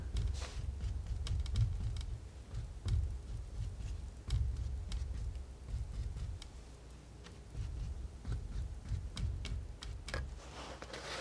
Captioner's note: scratching